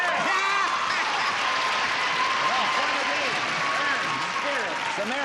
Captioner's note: applause